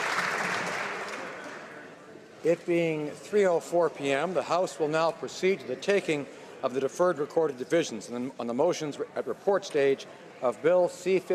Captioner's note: applause